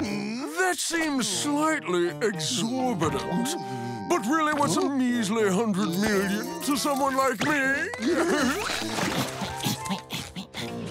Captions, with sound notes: That seems slightly exorbitant, but really, what's a measly $100 million to someone like me? [chuckles] [grunting]